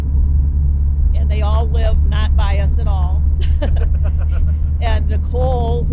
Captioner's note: laughs